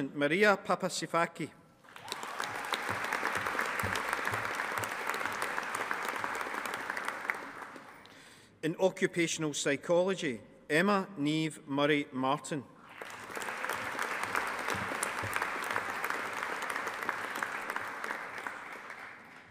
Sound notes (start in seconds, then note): 1.8 audience applauding; 12.8 audience applauding